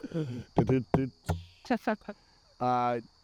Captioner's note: laughs; taps guitar; laughs